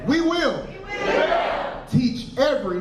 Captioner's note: crowd